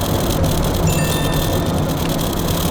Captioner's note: text message sound